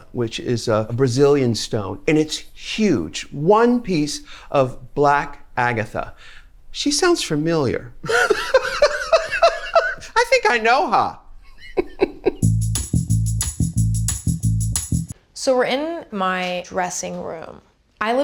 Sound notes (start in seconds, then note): 8.1 laughing; 11.5 laughs; 12.4 bright upbeat music